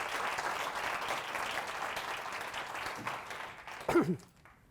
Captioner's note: audience applauds